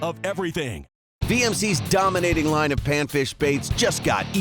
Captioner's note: voiceover